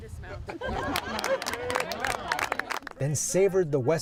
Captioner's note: applause